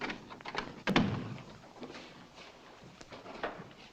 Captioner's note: door slams